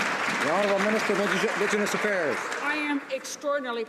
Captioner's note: some Applause